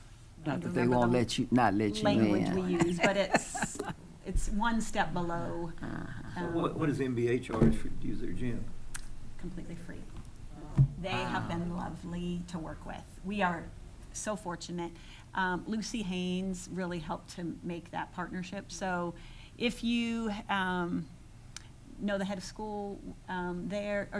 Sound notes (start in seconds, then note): 5.5 laughing